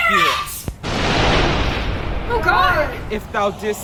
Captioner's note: thunder rumbles